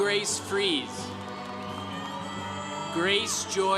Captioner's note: congregation cheering